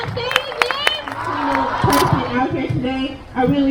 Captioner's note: crowd